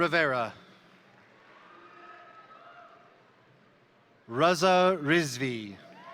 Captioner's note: crowd applauding; crowd cheering